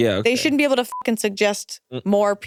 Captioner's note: beeps